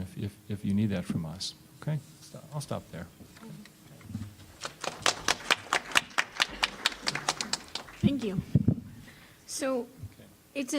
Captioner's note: applause